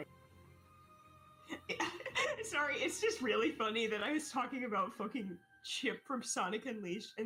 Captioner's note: laughs